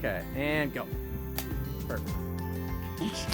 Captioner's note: slate snaps